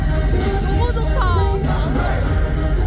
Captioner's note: tears